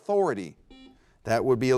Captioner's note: buzzer beeps